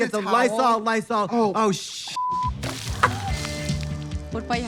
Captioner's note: beep